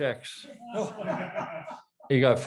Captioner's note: audience laughs